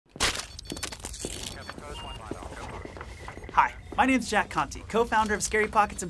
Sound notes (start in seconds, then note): 1.4 walkie talkie chattering